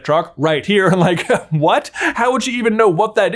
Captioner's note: laughs